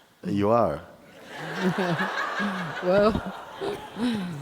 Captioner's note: laughter; laughs